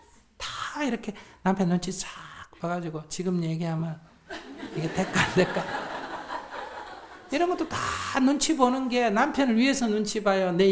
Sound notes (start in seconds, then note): 6.0 audience laughs